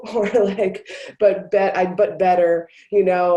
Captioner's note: chuckles